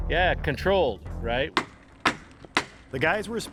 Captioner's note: hammer banging